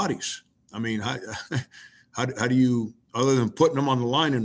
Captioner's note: laughs